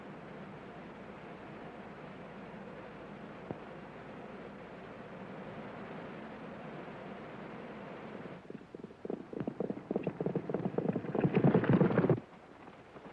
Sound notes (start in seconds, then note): 8.4 hooves pounding